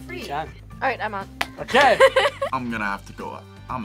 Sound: laughs

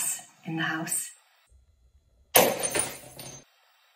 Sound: glass smashes

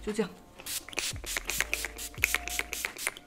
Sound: sound of spray

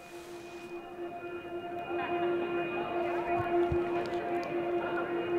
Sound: distant voices

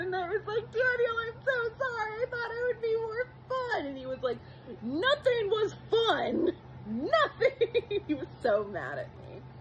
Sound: giggles

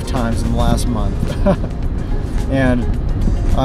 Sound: chuckles

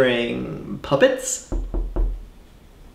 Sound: knock on the door

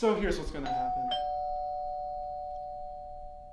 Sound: ding dong

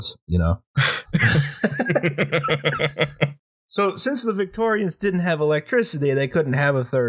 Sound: laughter

